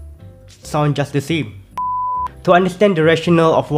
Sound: beep

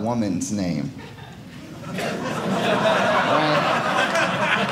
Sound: audience laughing

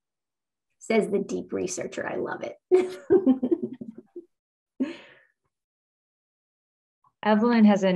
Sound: laughs

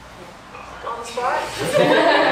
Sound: laughter

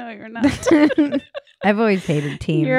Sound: laughing

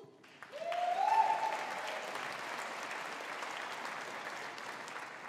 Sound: audience applauding

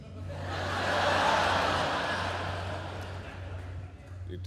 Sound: laughter

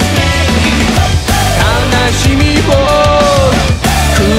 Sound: woo-hoo

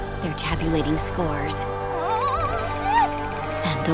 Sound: whimpering

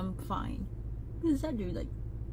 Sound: none

